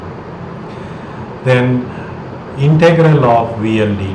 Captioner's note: pulsating voltage